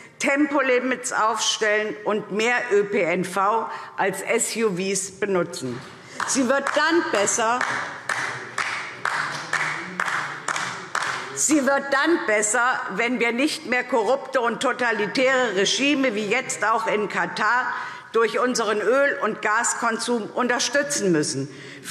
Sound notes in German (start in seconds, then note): 4.7 Beifall